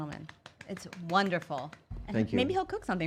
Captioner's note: clapping